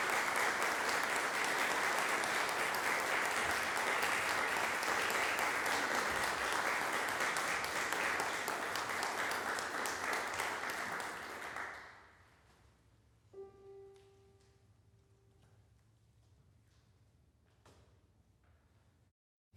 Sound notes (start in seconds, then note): 0.0 applause continues; 9.8 applause fades; 15.9 silence